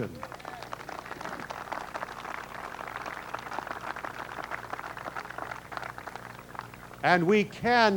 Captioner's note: applause